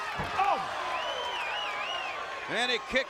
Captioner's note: fans whistling